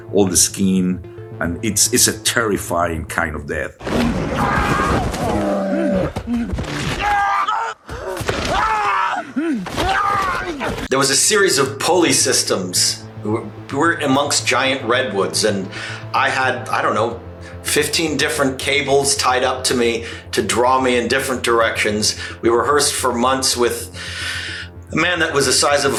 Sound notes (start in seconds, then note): 3.9 bear growling; 5.7 person shouting